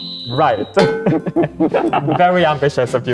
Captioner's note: laugh